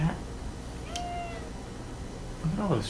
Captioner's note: Index meows